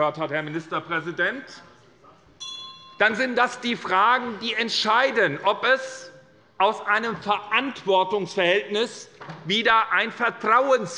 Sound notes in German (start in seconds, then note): 2.4 Unruhe - Glockenzeichen des Präsidenten